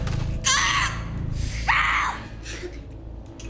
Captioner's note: Alejandra screams